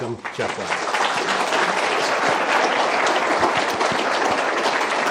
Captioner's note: applause